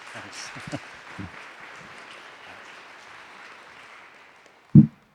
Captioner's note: audience applauding